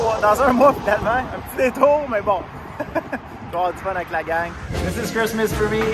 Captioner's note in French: rire